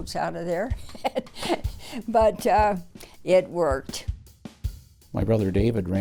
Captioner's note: laughs